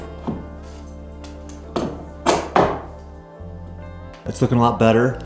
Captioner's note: hammer removing nails